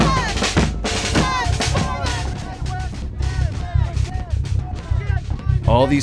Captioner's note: protesters chanting